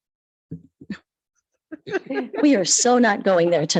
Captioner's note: light laughter